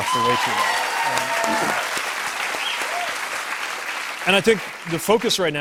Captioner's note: cheers and applause